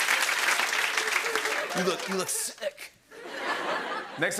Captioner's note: laughter and applause; laughter